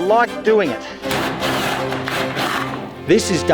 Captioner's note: drill whirring